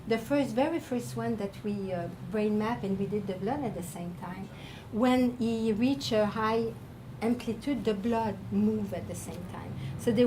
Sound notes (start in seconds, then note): none